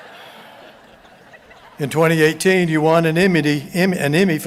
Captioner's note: chuckles